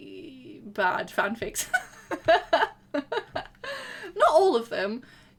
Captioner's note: laughter